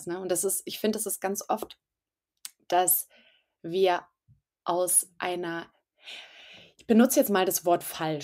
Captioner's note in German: seuzft